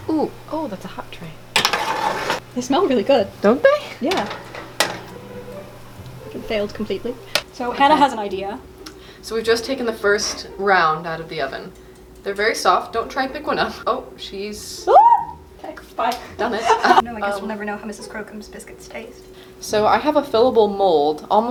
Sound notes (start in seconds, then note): 14.8 screams